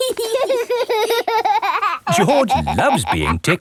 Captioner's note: laughing